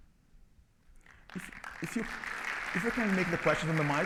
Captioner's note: audience clapping